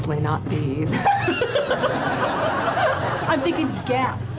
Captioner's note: both laugh